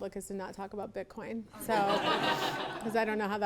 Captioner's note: attendees laughing